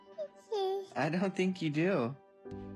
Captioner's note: baby cooing